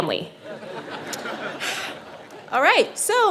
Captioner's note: audience laughing